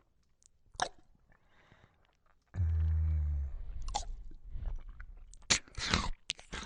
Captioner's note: sounds of chewing and slurping slowed down